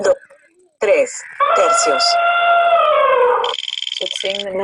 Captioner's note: speaking in foreign language; elephant trumpeting; wheel clicking